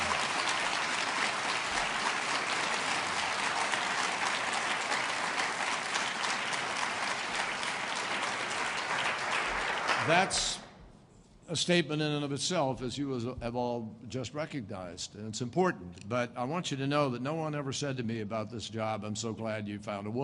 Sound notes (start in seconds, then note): 2.8 applause